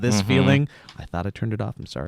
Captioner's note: email notification bell